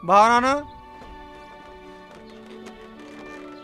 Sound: foreign language

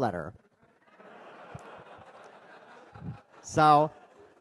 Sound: audience laughing

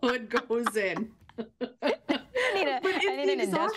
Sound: laughter

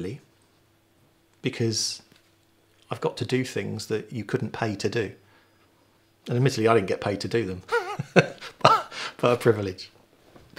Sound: laughing

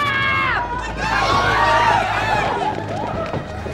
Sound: screaming

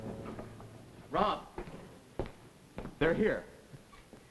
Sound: footsteps

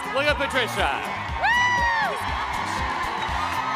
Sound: cheering

